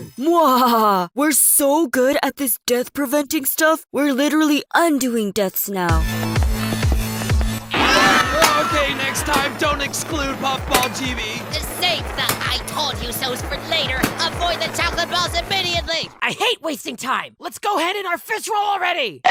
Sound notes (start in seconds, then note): 7.7 Are You Okay screams